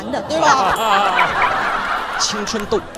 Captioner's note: ding-ding-ding